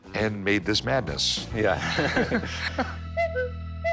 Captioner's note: laughs